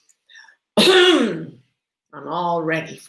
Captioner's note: clears throat